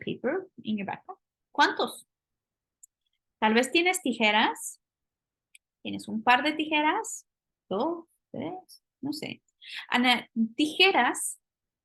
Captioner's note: speaking spanish